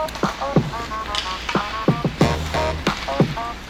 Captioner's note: upbeat music; sticks clatter